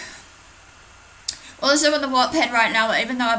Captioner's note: sighs